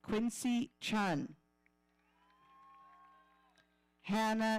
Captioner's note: audience cheering